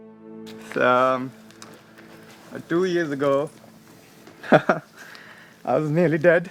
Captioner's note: laughs